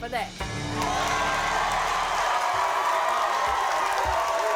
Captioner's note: audience cheering